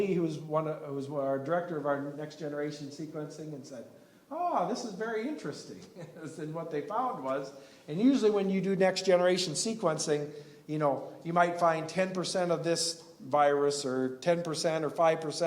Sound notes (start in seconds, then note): 5.9 laughs